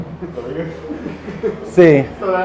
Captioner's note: laughs